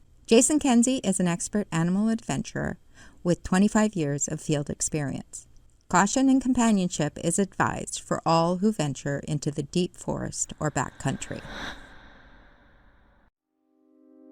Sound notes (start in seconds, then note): 10.9 heavy breathing; 12.2 silence